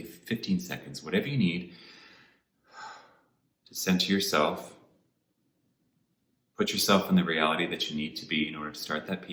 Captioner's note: exhales